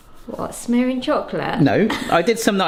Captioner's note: scoffs